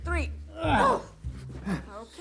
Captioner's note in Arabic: مايكل وجوان يتذمران